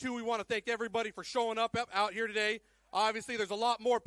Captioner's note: none